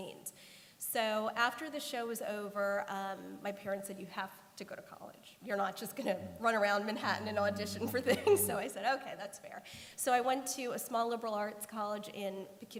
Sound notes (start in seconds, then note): 7.8 laughter